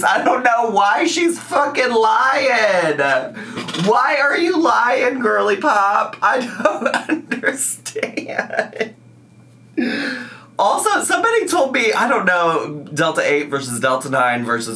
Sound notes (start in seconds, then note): 9.4 laughs